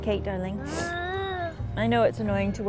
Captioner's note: groaning